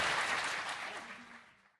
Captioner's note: applause